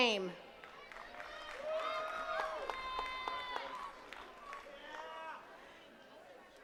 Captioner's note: attendees cheering and clapping